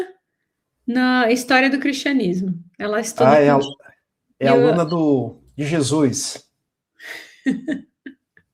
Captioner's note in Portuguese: risadas